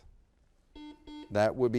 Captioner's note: buzzer beeps